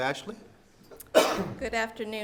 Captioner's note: coughs